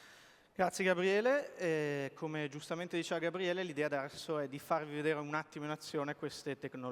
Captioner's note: speaking italian